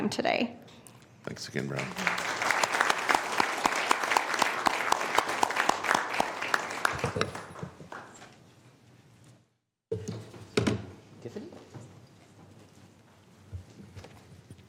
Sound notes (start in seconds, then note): 4.6 applause